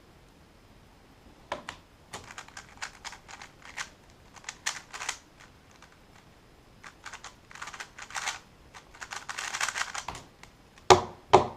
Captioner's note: cube noises; cube hits table